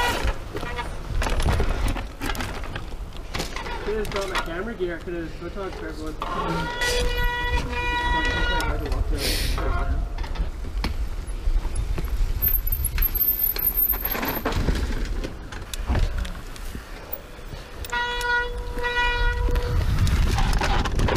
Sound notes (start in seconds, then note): 0.5 bicycle brakes squealing; 5.4 group chatting; 8.7 brakes squealing